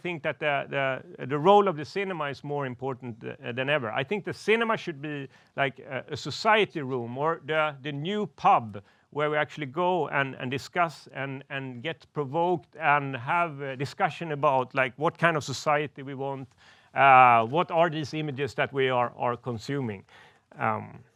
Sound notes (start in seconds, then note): none